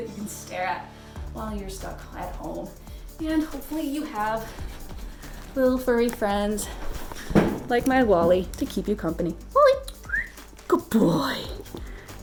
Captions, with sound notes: that you can stare at, while you're stuck at home. And hopefully you have little furry friends like my Wally, to keep you company. Wally. (whistles) Good boy.